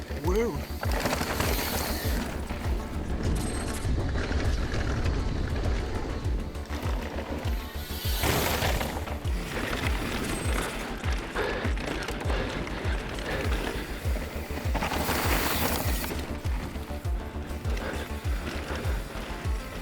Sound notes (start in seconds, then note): 0.0 upbeat music; 1.7 upbeat music; 7.5 bike whirring